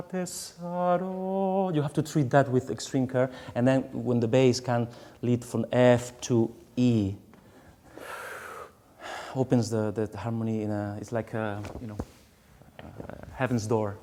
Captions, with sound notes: [SINGING IN FOREIGN LANGUAGE], you have to treat that with extreme care, and then when the bass can lead from F to E. [DEEP BREATH] Opens the harmony, it's like a heaven's door opening